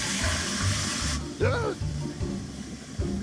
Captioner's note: groans